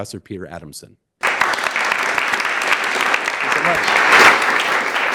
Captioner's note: audience clapping